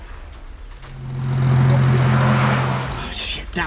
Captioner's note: approaching Vehicle